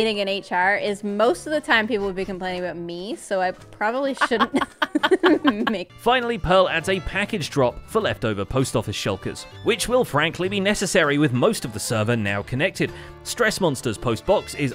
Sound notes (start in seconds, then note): 4.1 laughs